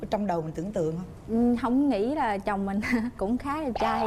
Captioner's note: chuckles